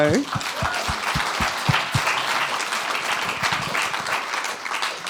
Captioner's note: applause